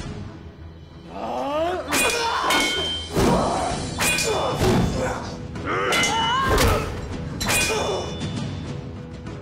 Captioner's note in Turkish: Dövüş Sesleri